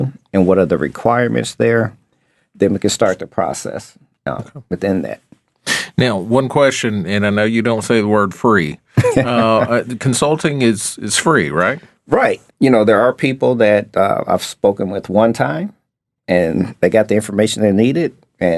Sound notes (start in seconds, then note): 8.9 laughing